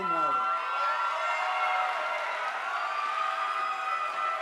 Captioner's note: audience applauding